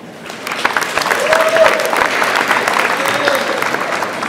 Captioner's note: audience applauds